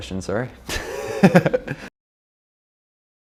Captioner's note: laughing